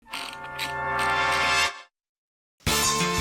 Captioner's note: wheel clicks